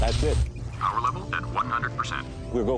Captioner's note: computer voice